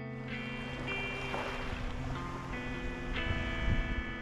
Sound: waves ebbing and flowing

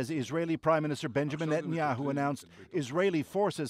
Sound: speaking alternate language

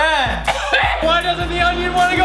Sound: gagging

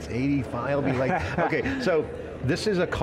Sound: laughing

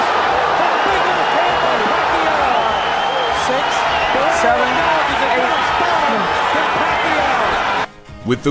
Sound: crowd cheering

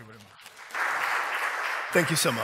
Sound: applause

